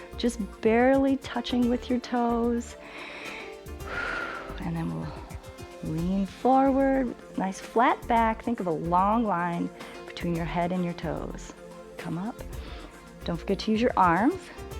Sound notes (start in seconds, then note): 2.8 inhales and exhales